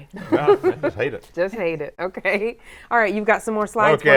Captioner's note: chuckles